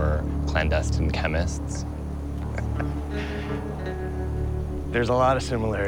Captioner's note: laughs